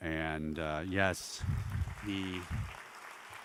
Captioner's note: applause